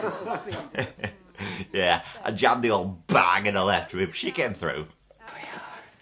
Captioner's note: he laughs